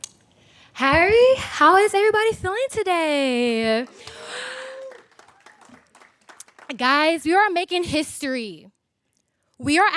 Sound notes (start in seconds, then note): 3.8 audience applaud; 4.0 cheers